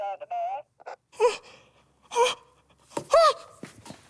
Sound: gasps

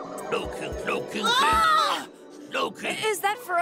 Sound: both scream

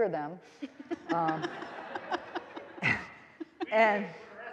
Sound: all laughing

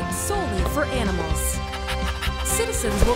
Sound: panting excitement

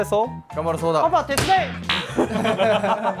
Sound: thump

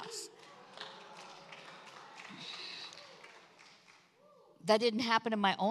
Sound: congregation applauds

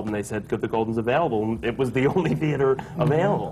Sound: laughs

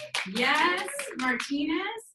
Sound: woman shouting; audience applauding

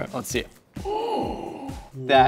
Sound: groans

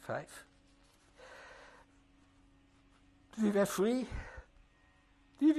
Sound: pauses for 3 seconds

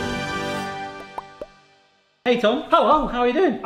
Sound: popping sound effect

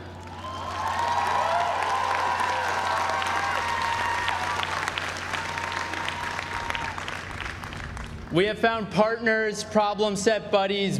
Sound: applause

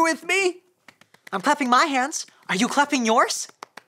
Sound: soft clapping

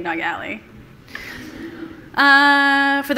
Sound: laughter from the audience

